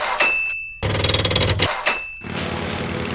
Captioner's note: enging purrs